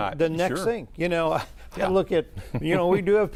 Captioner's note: laughs